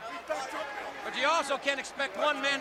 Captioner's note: crowd chatter